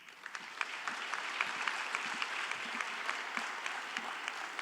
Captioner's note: audience applauding